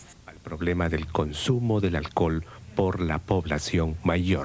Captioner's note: announcing in Spanish